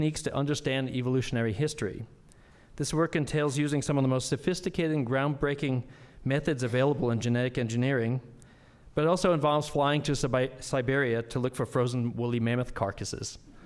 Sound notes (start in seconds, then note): none